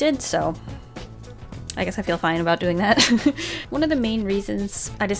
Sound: laughs

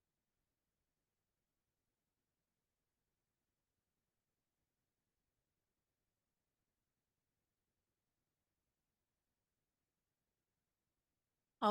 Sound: silence

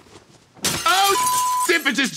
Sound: glass shattering

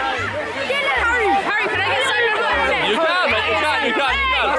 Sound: students shouting

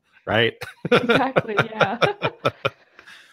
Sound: laughs; laughing

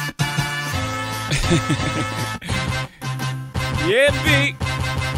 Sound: laughs

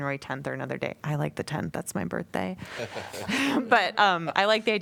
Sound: laughter

